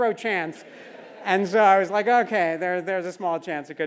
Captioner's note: laugh